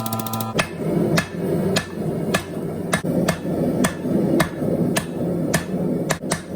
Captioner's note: hammering